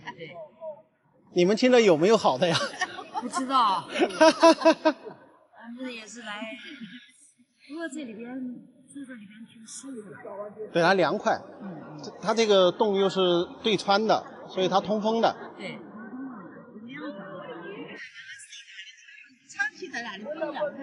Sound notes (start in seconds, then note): 2.4 ha ha ha ha